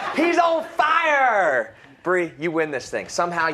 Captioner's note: laughter